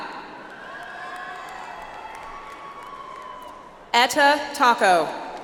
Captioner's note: audience applauds